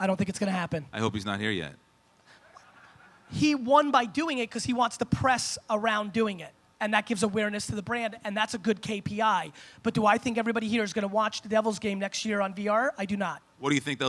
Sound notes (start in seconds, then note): 2.4 audience laughs